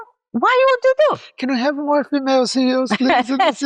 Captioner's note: laughs